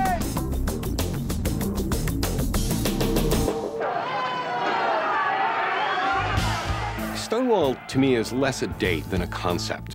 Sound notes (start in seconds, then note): 3.7 police sirens